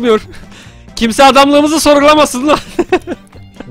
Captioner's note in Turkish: Gülerek